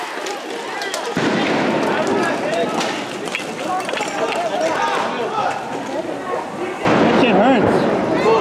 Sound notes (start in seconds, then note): 1.1 explosion